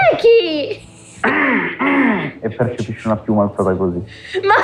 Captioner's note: squawks; laughs